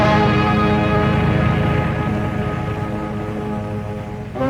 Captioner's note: car engine revving